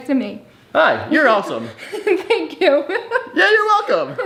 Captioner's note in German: lacht